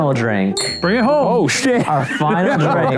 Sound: laughs

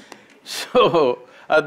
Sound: laughter; laughs

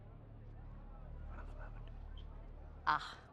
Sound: whisper

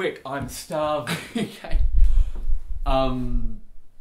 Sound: laughing

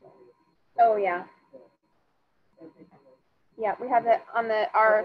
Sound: student speaking faintly

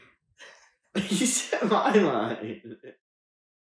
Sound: laughing

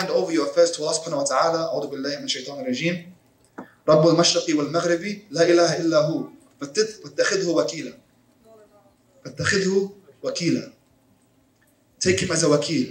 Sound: Arabic

